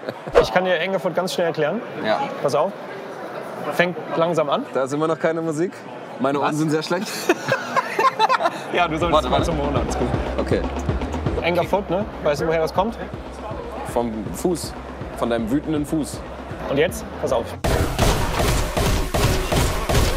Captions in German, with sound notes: Ich kann dir Anger Foot ganz schnell erklären. - Ja. Pass auf. Fängt langsam an. - Da ist immer noch keine Musik. Was? - Meine Ohren sind sehr schlecht. (Gelächter) Ja, du solltest mal zum Ohrenarzt. - Warte mal ... okay. "Anger Foot", ne? Weißt du, woher das kommt? Vom Fuß. Von deinem wütenden Fuß. Und jetzt, pass auf. (Schnelle Musik)